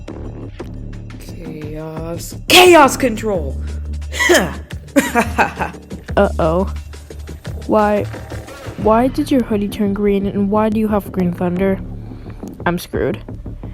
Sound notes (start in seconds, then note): 4.9 laughs